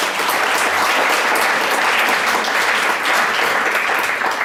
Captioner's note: audience applause